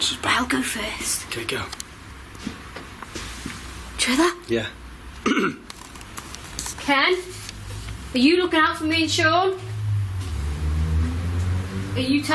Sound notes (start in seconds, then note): 5.2 clears throat